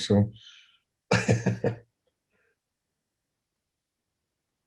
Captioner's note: laughing